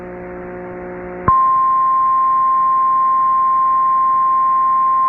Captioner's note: 1050 HZ tone